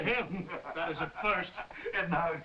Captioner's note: Jakob laughing